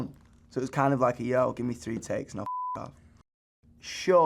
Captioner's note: beep